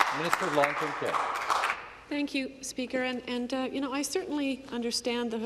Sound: some Applause

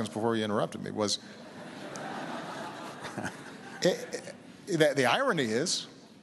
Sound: laughter

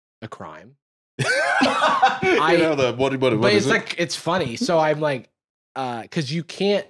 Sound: laughs

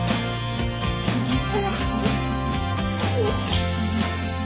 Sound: baby whimpers

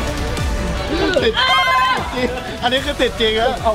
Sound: gasps

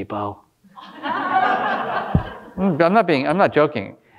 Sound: audience laughing

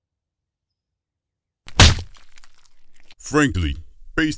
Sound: crack

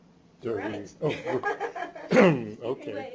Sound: chuckles

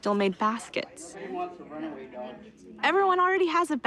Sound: indistinct chatter

